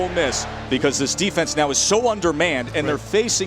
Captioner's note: voiceover